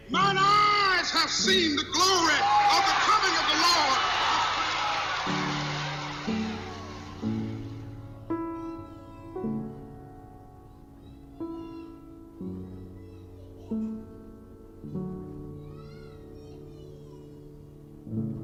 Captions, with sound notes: Mine eyes have seen the glory of the coming of the Lord! (audience applauds)